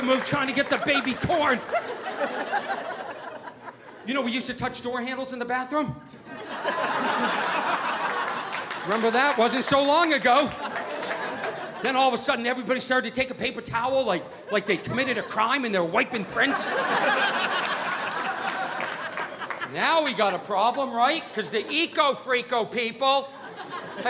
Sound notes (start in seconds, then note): 6.2 audience laughing; 16.1 audience laughing